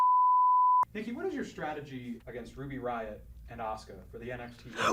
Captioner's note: tone